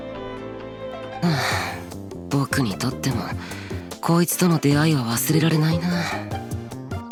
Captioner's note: sigh